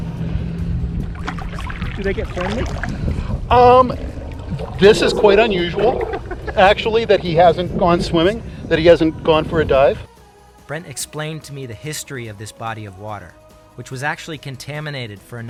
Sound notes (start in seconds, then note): 1.0 water splashing; 6.3 laughs; 10.1 pleasant music